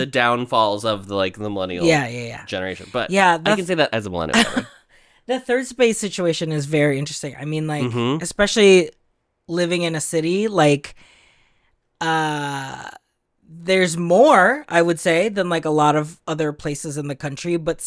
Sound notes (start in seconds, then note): 4.3 laughs